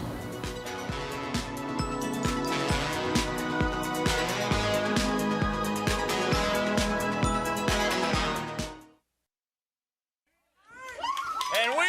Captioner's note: crowd cheering